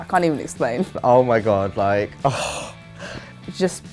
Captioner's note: sighing